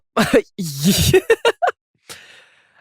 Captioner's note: chuckles